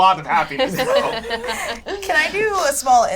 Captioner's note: laughs